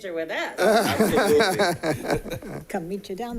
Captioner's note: people chuckling